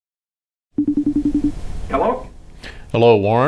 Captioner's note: electronic phone ring